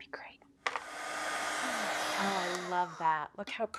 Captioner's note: dryer whooshing